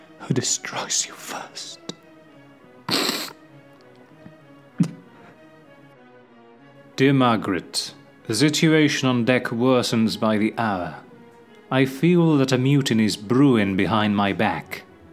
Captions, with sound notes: who destroys you first. (SOBS) "Dear Margaret, the situation on deck worsens by the hour. I feel that a mutiny is brewing behind my back.